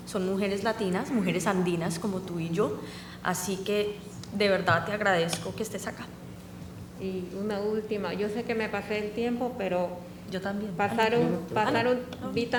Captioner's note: speaking spanish